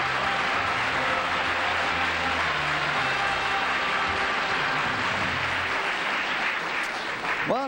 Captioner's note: applause